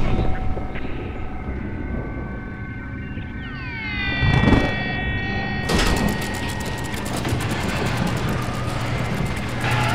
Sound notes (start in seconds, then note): 1.6 thunder and radio static